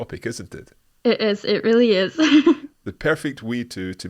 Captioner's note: laughs